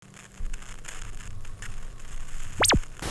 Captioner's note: static